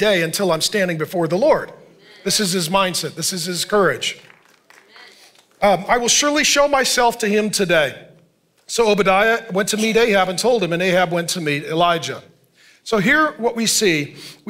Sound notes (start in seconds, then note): 3.8 congregation applauding